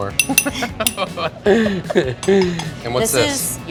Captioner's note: laughing